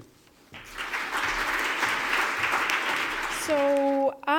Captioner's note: applause